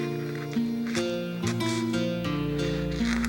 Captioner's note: none